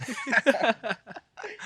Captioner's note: both chuckling